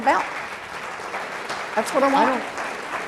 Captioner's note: applause